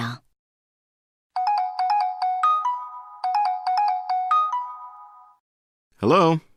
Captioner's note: cell phone rings